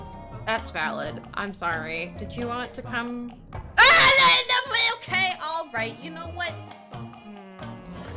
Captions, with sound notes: That's valid I'm sorry did you want to come...? *SCREAMS IN PANICKED GOBLIN NOISES* OKAY alright you know what... Hm...